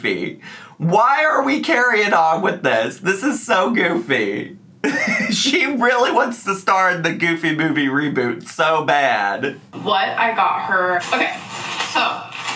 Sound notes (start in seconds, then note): 4.8 laughing